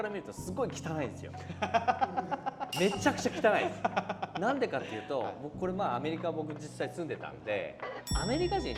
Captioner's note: laughing